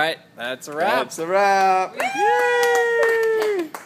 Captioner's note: clapping